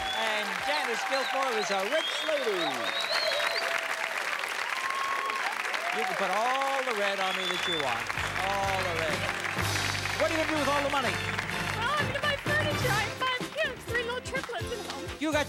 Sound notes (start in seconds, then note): 2.9 cheers and applause; 9.3 theme music playing